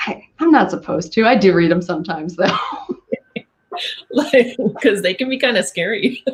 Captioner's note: laughing